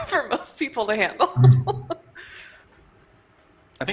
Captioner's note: laughs